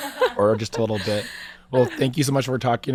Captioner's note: laughing